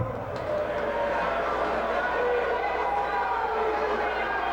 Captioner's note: spectators cheering